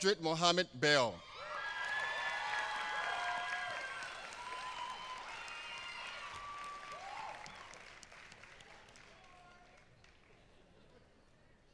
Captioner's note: applause